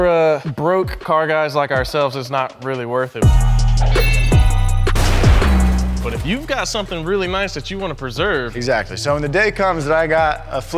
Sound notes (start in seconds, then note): 3.9 bell chimes; 4.0 explosion bangs